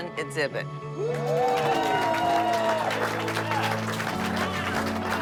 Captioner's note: cheering and applause